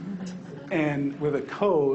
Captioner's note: people laughing